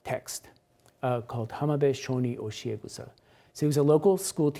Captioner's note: speaks Japanese